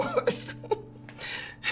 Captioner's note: chuckling